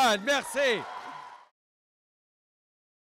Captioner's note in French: Acclamations et applaudissements